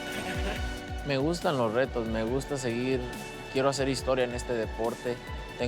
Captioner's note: speaking Spanish